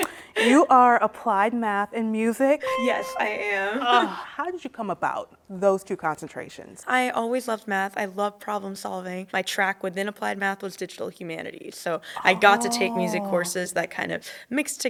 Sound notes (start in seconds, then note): 0.0 laughs; 2.6 chime